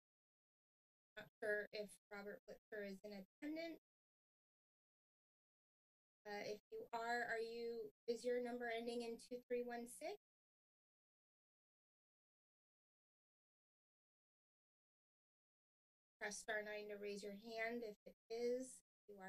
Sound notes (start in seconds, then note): none